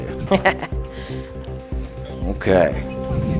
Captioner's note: laughing